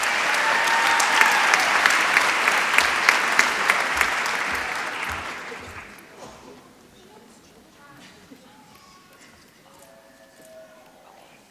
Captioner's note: applause